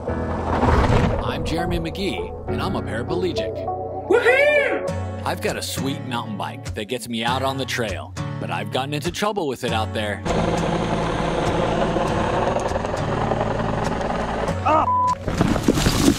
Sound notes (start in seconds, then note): 10.2 helicopter engine roaring; 14.8 beep